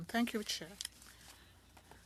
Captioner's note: speaking French